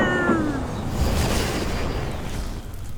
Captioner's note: whoosh